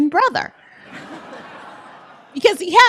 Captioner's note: laughter